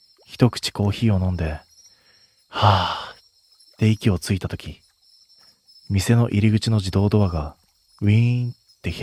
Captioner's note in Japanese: ため息